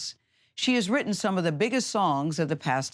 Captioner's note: none